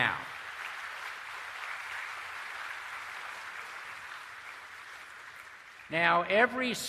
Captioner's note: applause